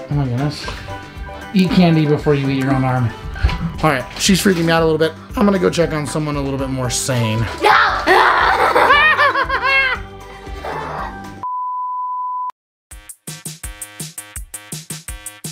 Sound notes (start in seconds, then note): 7.6 roars; 9.0 yelps; 12.9 playful music